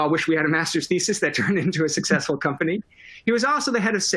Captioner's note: laughter